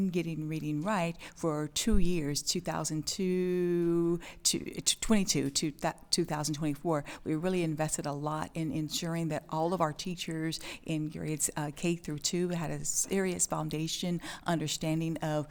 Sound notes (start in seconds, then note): none